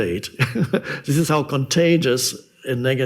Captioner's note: laughs